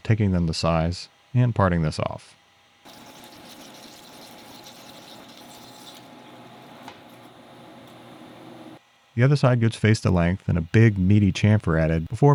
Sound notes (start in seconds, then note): 2.9 lathe whirring